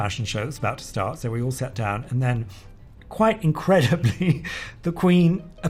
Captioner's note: laughs